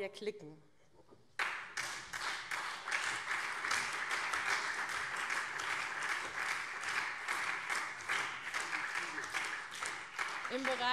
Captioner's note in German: Beifall SPD und CDU